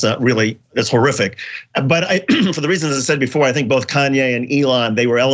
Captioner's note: cough